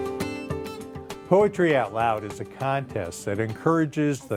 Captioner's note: voiceover